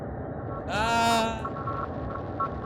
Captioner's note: normal yelling